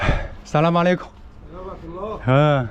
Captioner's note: Arabic